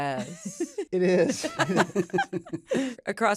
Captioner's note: laughter